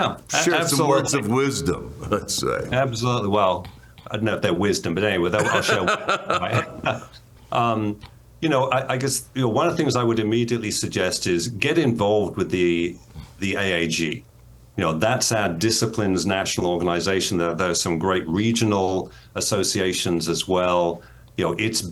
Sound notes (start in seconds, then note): 5.4 laughter